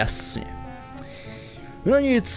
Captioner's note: inhale